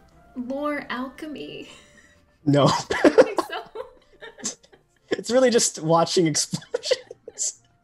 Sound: laughs

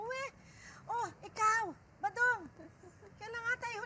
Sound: chuckles

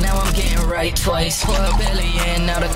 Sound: water pouring into cup sfx

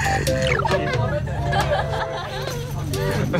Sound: noisy neighborhood

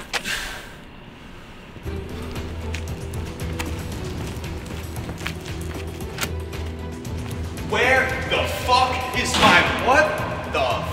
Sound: dry heaves

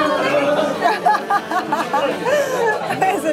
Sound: laughs

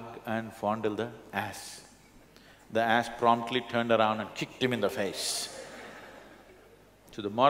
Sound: laughter

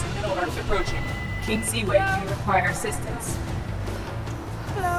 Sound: robotic voice

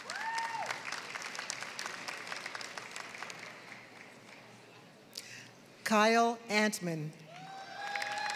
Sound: applause; applause

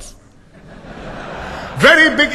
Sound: laughter

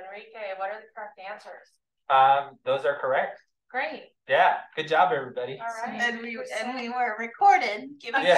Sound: chatter

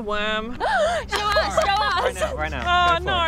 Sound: gasps

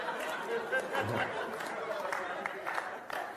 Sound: laughter, Applause

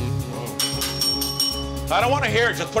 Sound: bell rings

